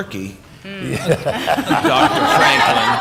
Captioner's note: laughter